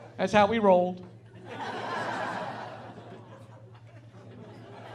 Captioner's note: laughing